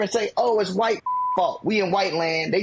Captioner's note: beep